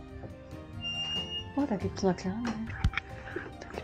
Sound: door squeaking

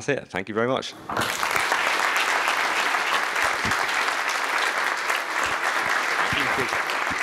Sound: applause

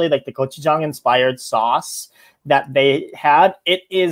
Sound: speaks foreign language

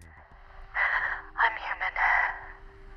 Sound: exhales deeply

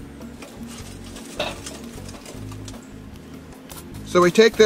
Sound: briquettes rustling

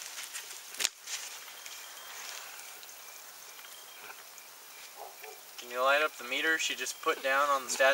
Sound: dog barking

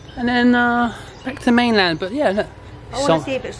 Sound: none

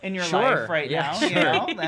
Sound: giggles

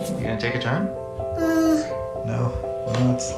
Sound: voice of child

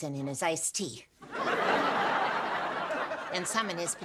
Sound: audience laughing

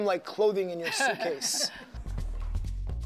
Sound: laughter

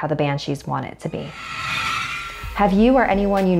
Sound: eerie screaming

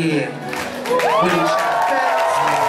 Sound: cheering

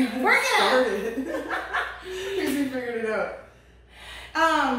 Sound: laughter

